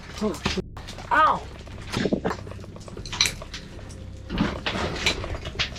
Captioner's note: rock banging; mining equipment ratliing